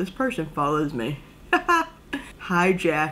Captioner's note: laugh